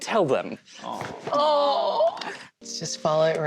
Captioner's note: cast awww's